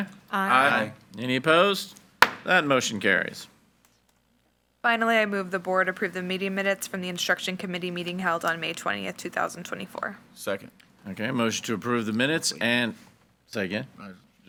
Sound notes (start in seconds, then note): 2.2 gavel bangs